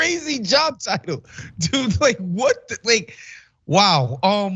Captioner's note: laugh